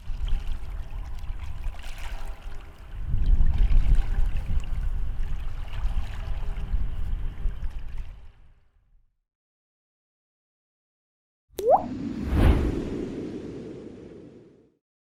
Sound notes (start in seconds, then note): 0.1 swimming noises; 11.6 water drop; 11.6 wind noises